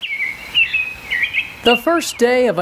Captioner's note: bird chirping